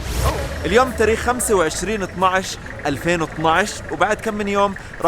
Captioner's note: Arabic